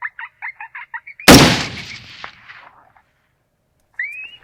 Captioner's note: gun shooting